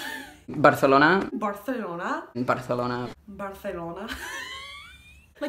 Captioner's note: wheeze